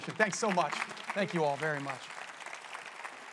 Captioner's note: applause